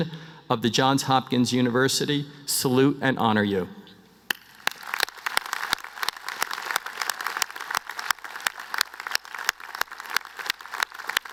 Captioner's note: applause